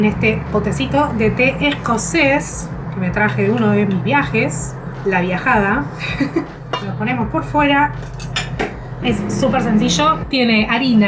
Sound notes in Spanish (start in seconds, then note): 6.0 risas